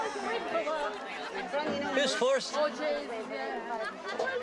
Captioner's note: El parloteo continúa